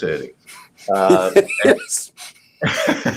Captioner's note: laughs